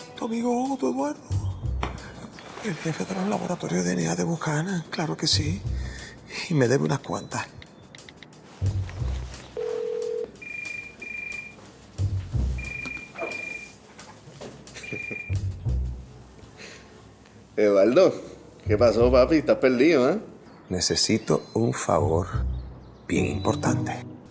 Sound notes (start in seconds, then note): 9.6 ring tone; 14.6 laughs